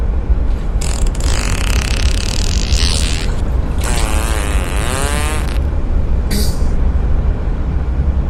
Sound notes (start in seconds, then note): 0.6 farts to completion; 6.4 gas escaping ass